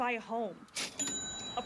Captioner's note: cha-ching